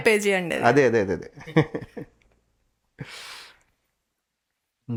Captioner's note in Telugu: నవ్వు